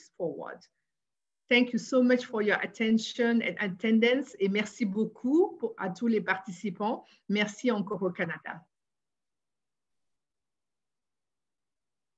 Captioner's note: French language